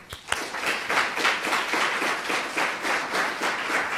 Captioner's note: applause